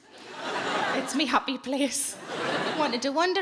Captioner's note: audience laughs